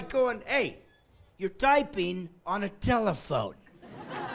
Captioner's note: laughing